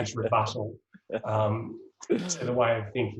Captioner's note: laughs